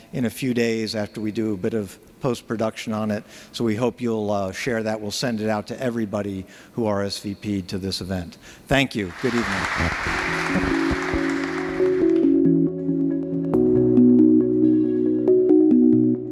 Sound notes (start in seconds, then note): 10.7 audience applauding; 12.7 bright music